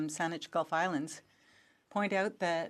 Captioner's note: speaking French